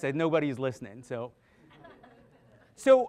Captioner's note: audience laughing